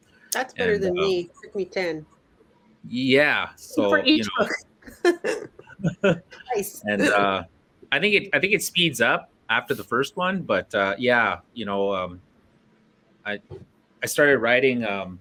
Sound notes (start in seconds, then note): 4.9 laughter